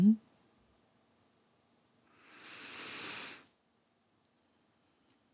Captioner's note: inhales deeply